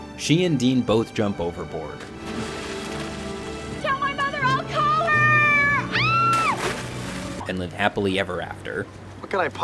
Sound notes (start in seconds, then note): 2.0 dramatic music; 5.5 screams